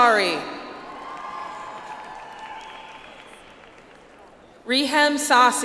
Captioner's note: audience applauds